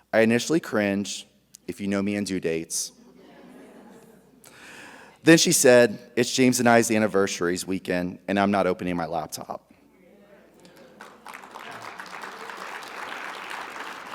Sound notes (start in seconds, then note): 3.1 audience chuckles; 10.6 audience applauding